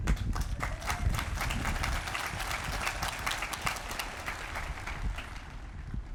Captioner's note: applause